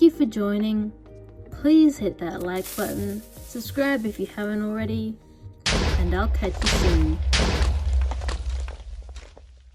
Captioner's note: TNT explosions